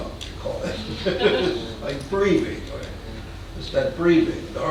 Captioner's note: man laughing